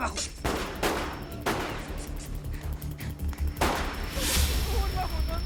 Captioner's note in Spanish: Disparos